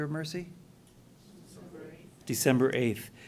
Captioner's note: voiceover